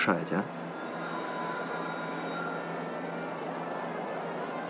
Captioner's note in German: Klingel